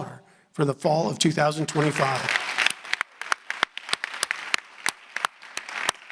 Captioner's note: audience applauding